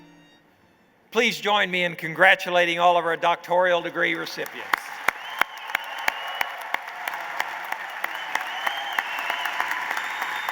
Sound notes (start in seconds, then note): 3.8 applause